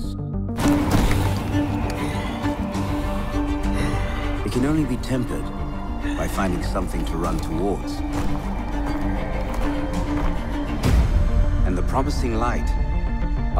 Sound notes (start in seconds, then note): 3.9 sighs